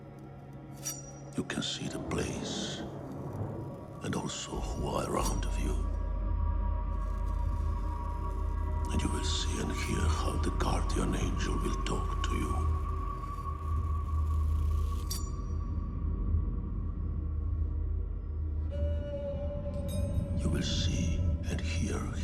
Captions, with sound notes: You can see the place, and also who are around of you. And you will see and hear how the guardian angel will talk to you. (blade scrapes) You will see and hear him now.